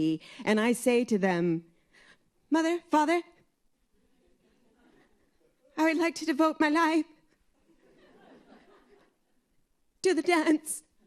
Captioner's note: laughter